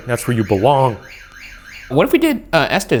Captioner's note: motion alarm blaring upstairs